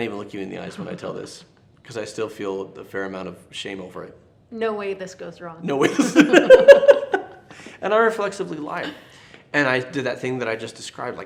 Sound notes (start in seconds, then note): 5.8 both laughing